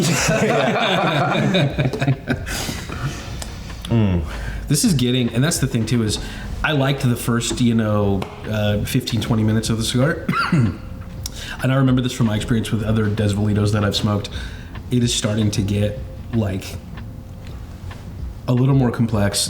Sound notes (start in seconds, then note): 0.0 all laughing; 10.2 coughs